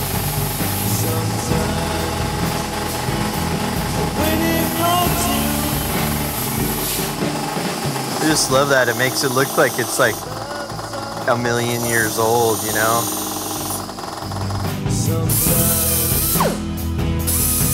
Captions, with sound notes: I just love that. It makes it look like it's like a million years old, you know. (scratchy grinder)